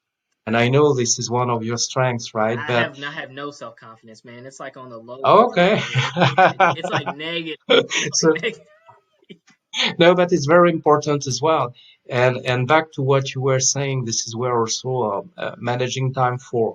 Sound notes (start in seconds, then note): 8.7 laughs; 9.8 laughing